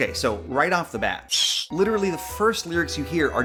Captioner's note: bat squeaks